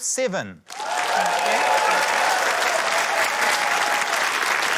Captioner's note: cheering, applause